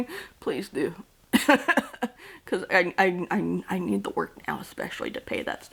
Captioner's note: laughs